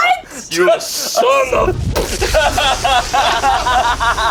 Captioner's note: bomb explodes; group laughs